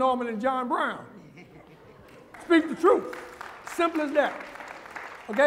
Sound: applause

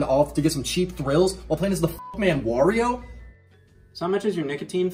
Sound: beep

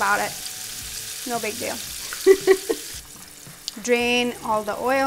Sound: laughs

